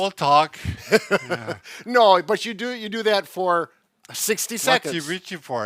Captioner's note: chuckling